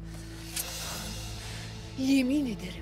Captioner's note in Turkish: Hançer çekme sesi